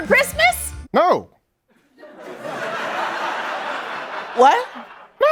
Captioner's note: laughter